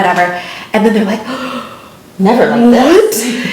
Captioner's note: gasps